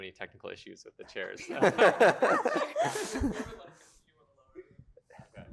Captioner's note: laughter